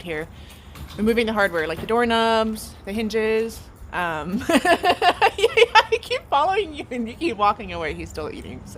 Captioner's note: laughs